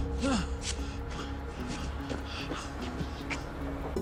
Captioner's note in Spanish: Respiración agitada